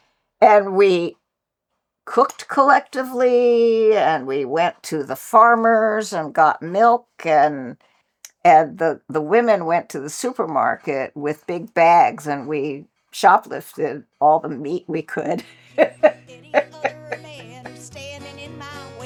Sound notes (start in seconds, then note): 15.4 laughs